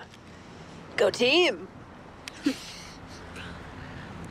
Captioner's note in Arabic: يضحك